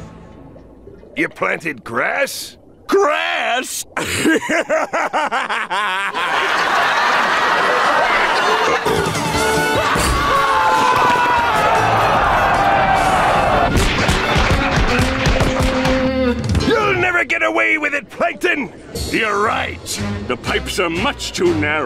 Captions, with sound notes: You planted grass? Grass?! [laughing] Uh-oh. [screaming] [thudding] You'll never get away with it, Plankton. You're right. The pipes are much too narrow.